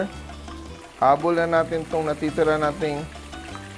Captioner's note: sizzle